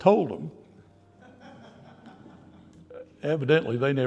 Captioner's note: audience laughter